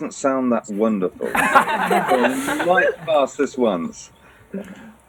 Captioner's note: laughter